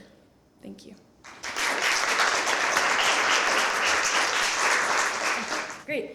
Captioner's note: applause